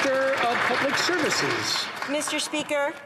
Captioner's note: some Applause